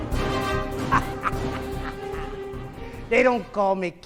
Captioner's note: laughing